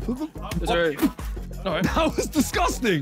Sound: spits

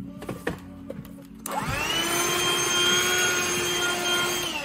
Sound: vacuum whining

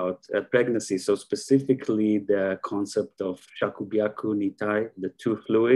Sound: speaking in Japanese

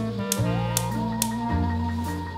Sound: stove ignites

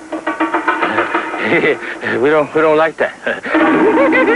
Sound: crazed giggling; laughter

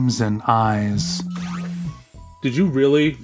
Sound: Guti's phone vibrates

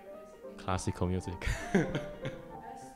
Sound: laughs

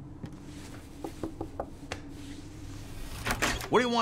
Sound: door knocking

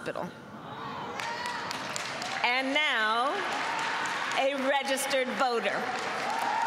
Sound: applause

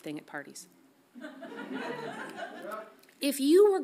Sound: audience laughs softly

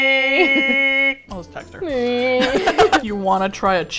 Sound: both laugh

